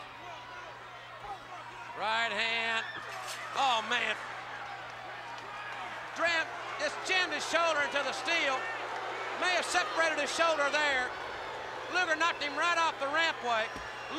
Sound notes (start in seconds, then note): 8.8 crowd boos